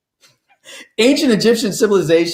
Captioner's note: laughs